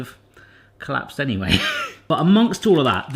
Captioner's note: laughing